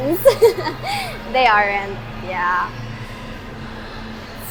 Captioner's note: laughs